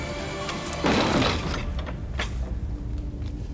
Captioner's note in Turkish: kapi kapatma sesi̇